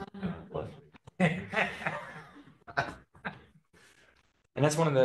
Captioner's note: laughter